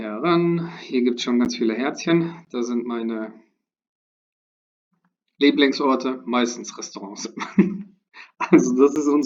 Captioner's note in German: gelächter